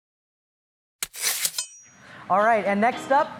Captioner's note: knife slicing